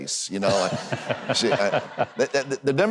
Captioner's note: Huckabee and audience laugh